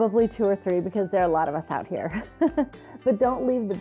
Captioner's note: chuckles